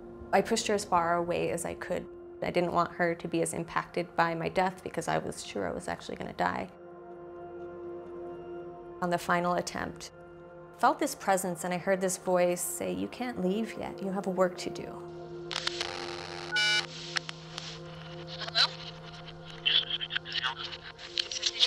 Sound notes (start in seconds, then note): 15.4 static buzzes; 15.5 camera flash snaps; 15.6 phone beeps